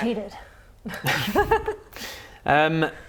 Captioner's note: laughs